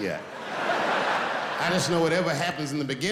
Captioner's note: laughing